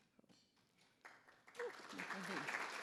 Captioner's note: attendees applauding